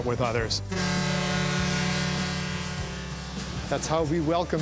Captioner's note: ship horn blowing